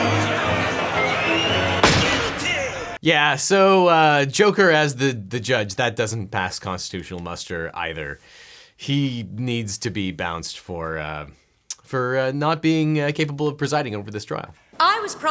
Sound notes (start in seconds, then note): 1.8 gavel bangs